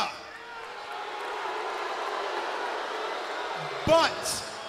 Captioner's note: crowd cheering